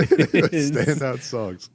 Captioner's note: laughing